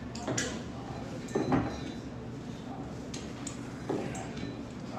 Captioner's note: conversations in background